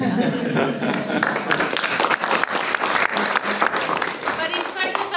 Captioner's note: applause